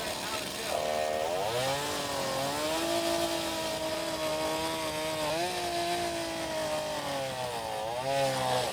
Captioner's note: chainsaw grinding